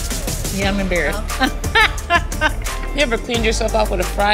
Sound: laughing

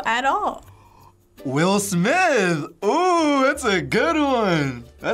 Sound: gasps

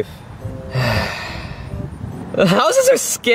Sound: Luigi sighs

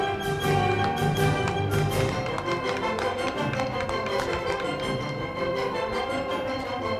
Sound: band music; crowd clapping

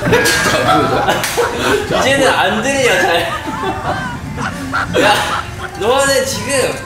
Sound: laughter

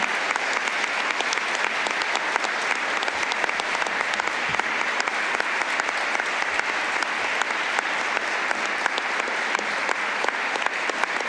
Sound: applause

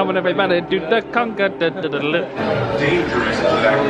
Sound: vocalising

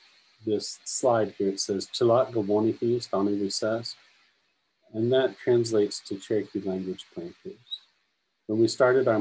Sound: native language 00:34:07

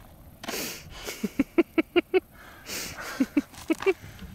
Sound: laughs

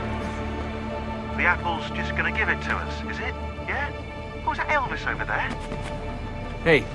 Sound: Lucy through radio; Shaun through radio

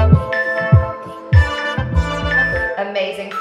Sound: timer beeping

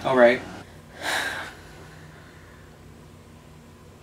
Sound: sighs

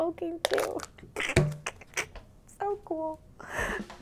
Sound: laughs

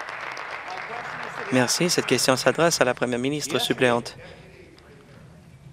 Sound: applause

